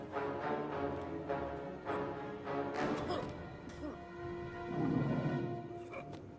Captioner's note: coughs; sighs